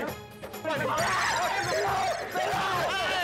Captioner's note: screaming